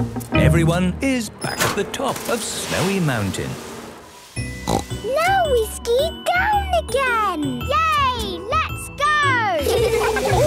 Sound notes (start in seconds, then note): 4.6 snorting; 9.6 laughter